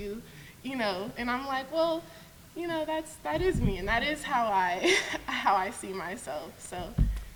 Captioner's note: laughs